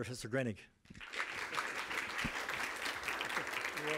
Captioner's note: applause